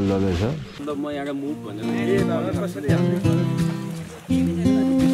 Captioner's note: indistinct conversations